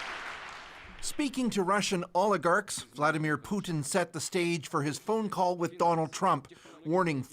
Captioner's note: applause